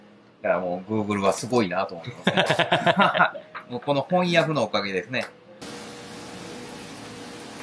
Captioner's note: laugh